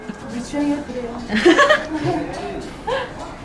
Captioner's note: laughs